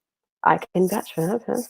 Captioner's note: murmurs